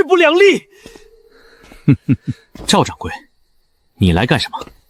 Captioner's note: chuckles